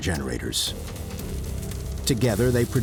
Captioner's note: intriguing dramatic music; electricity buzzing